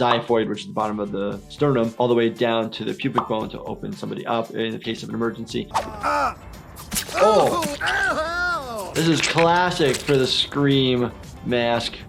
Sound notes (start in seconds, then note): 6.8 blade squelching; 7.0 character screams